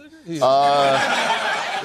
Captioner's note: laughter